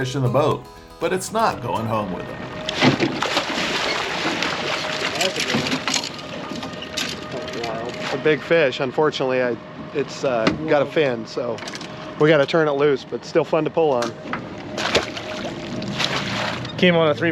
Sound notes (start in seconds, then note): 2.6 fish splashing; 3.9 tackle clattering; 14.7 fish splashing